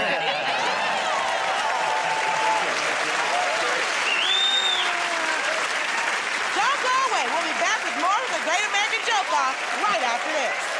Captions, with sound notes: -Yeah! [ Cheers and applause ] -[ Whistles ] -Don't go away. We'll be back with more of "The Great American Joke Off"